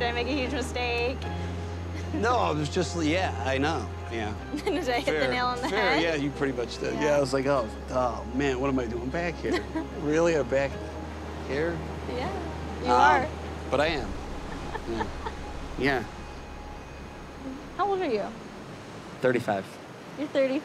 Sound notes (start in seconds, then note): 14.4 chuckles